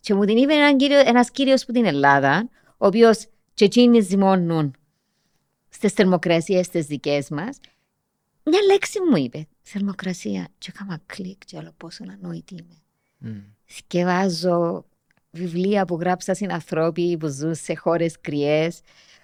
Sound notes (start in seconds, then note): none